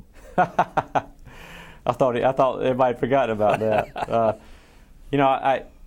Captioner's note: laughs